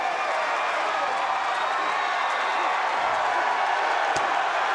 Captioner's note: crowd cheering